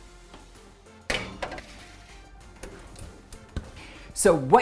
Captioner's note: sheet clanging